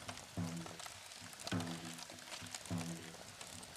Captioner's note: sound of flames crackling